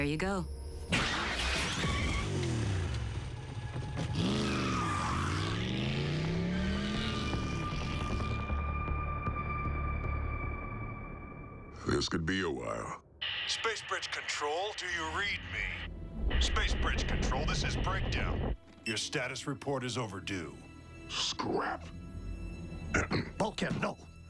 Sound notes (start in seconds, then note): 4.9 tires screech; 22.9 clears thro